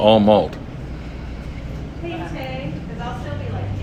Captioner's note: sniffs